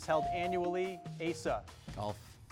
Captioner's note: bell dings